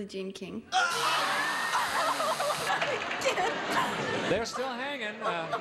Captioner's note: both shout, buzzer sounds